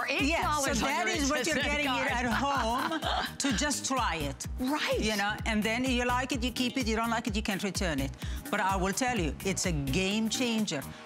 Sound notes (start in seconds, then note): 2.0 laughter